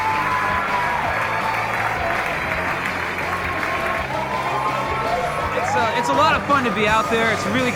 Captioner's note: applause